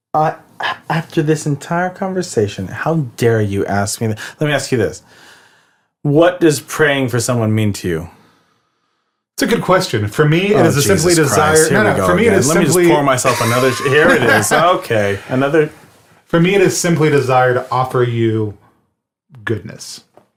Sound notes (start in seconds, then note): 15.8 laughs